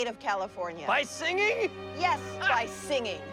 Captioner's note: laughs